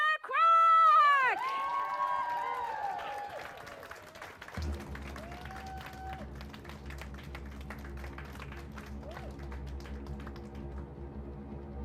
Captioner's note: cheers & applause